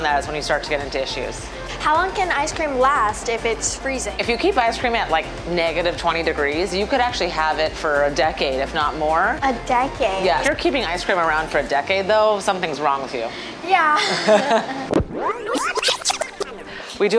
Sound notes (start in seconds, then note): 13.9 laughs; 14.8 video tape whining